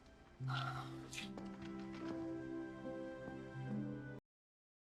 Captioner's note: sighing